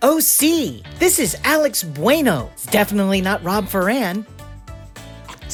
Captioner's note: high pitched V.O